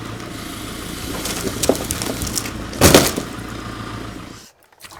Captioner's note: wood crashes